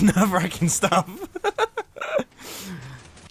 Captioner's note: laughs